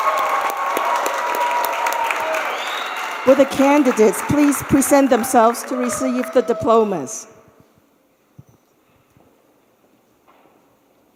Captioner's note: cheers and applause